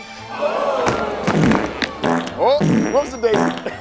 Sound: audience gasps; farting

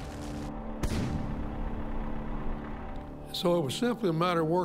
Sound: cannon shot exploding; fire crackling

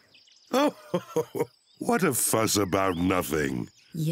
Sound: laughs

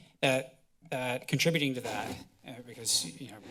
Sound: rustling sounds

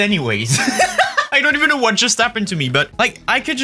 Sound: laughing

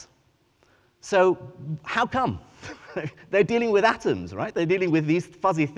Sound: chuckles

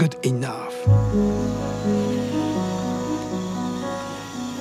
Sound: robot motor whirring

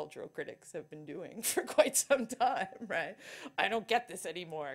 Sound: laughing

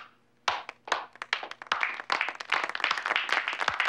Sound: audience applauding

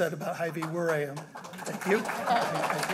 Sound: applause

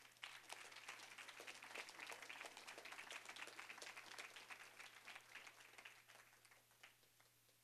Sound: applause

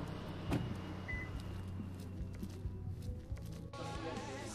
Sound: traffic humming; alarm system beeps

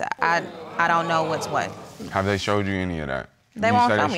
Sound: audience groans

